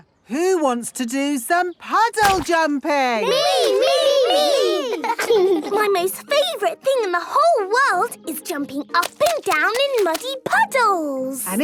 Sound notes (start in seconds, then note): 3.3 laughing